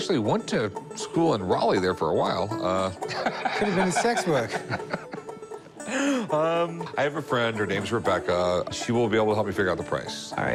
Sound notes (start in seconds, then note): 3.0 laughs